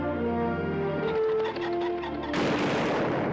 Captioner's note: bird squawking; gun firing